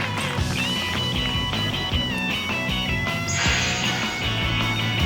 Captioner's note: cheer